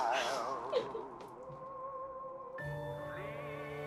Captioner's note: woman sobbing